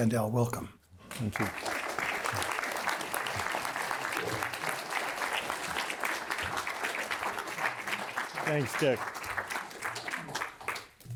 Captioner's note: applause